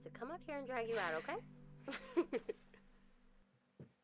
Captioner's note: laughing